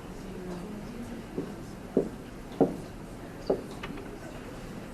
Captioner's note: marker thudding